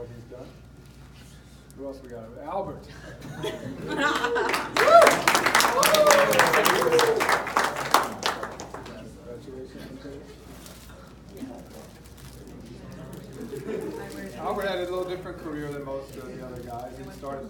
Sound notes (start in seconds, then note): 6.6 cheers